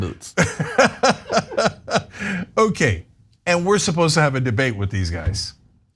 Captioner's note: laugh